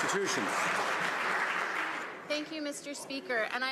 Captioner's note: some Applause